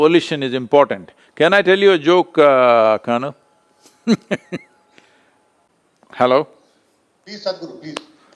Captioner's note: laughs